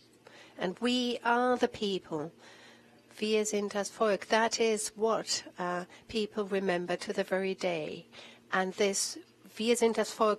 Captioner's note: in German